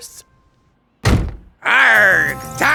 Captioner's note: pirate voice